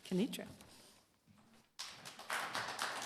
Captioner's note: applause